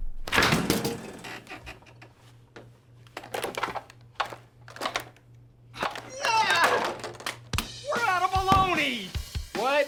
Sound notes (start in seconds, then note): 0.1 fridge clicks open; 3.2 containers jangling; 6.0 upbeat music; 6.0 Jewels screams